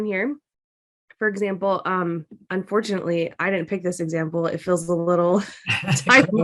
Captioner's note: laughter